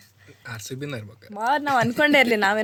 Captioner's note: laughs